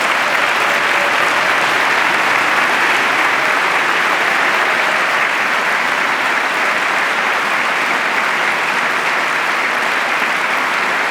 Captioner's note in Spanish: aplauso